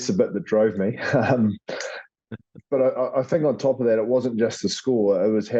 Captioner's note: laugh